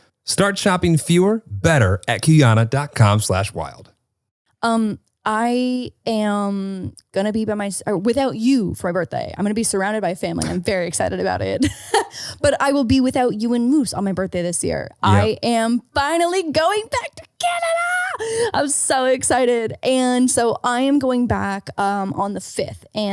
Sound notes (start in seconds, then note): 11.8 laughing